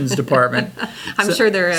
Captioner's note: laughs